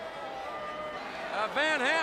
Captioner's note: crowd cheering